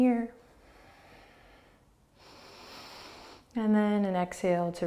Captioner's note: inhaling